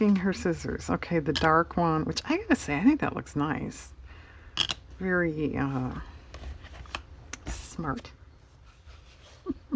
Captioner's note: laughs